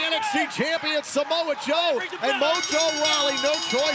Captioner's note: bell